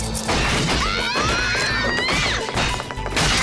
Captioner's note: screaming